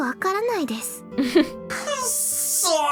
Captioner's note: chuckles